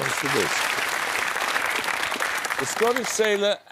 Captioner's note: applause